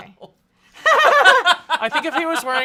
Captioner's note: laughs